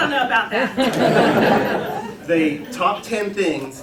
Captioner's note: laughter